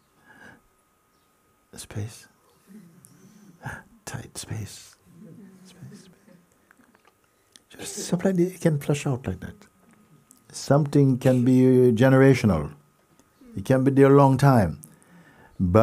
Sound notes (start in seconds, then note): 0.1 little gasp; 3.5 gasps